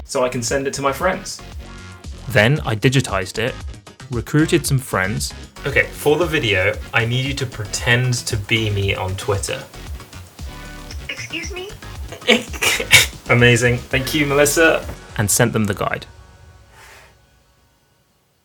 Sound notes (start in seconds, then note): 12.5 chuckling